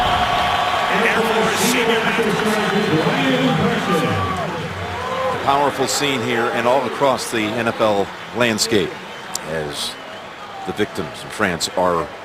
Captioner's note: cheers